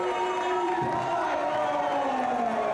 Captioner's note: crowd cheering